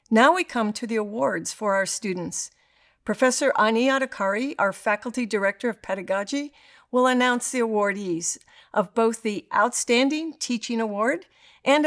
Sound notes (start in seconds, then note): none